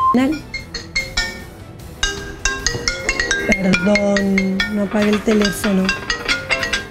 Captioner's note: ringing of phone